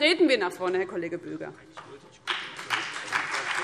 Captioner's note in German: Beifall BÜNDNIS 90/DIE GRÜNEN und vereinzelt CDU